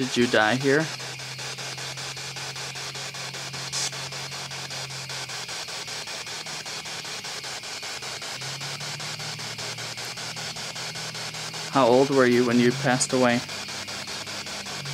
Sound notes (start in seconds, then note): 0.0 static continues; 2.7 static continues